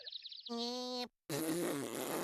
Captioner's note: jeering